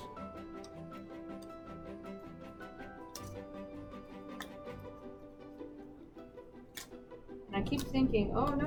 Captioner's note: sound of tape being removed